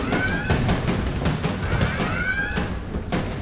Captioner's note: sirens wailing